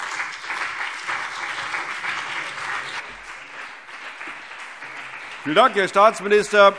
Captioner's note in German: Beifall CDU und BÜNDNIS 90/DIE GRÜNEN